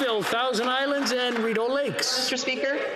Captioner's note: some Applause